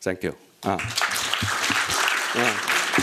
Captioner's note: applause